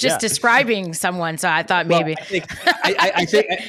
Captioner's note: laughs